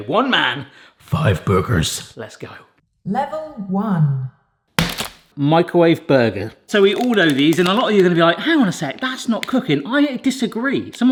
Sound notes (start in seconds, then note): 4.8 burger thuds